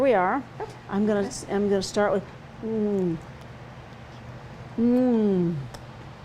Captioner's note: exclaims